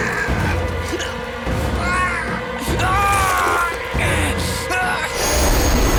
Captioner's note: groaning